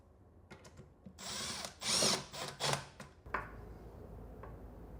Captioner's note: tool whirring